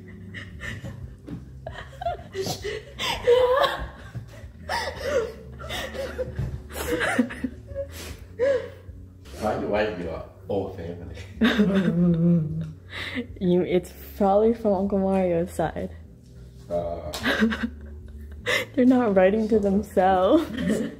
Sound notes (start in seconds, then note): 1.6 laughing; 4.2 gasping laughing; 17.2 laughing